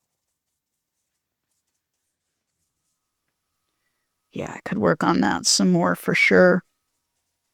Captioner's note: silence